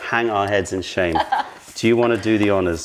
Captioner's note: laughter